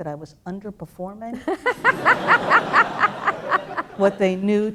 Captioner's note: laughter